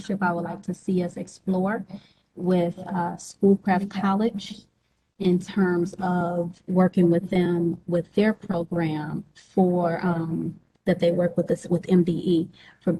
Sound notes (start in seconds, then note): none